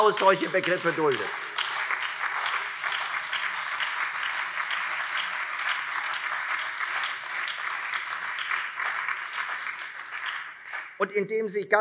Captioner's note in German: Beifall Freie Demokraten, CDU, SPD und BÜNDNIS 90/DIE GRÜNEN